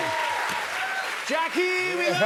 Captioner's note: cheers and applause